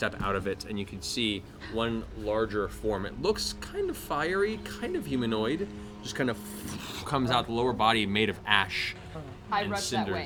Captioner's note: crackling